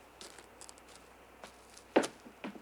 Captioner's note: footsteps